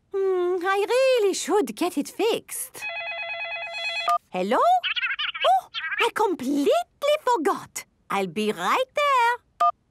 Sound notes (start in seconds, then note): 2.8 phone ringing